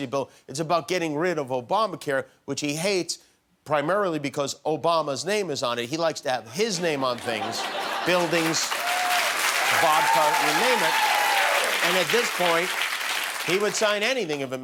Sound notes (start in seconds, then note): 6.9 laughter; 8.7 cheers and applause